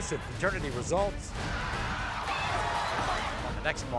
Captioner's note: yelling